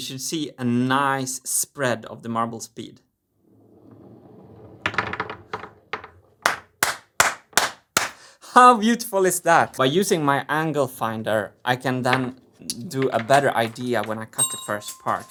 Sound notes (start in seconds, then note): 3.6 marbles rolling; 6.4 claps hands